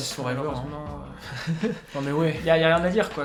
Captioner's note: laughs